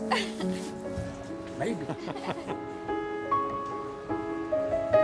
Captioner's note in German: Lachen